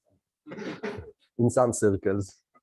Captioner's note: laughter